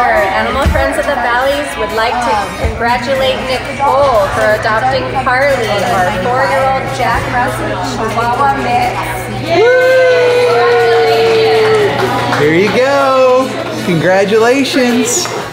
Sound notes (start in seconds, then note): 9.2 staff cheering; 11.9 staff clapping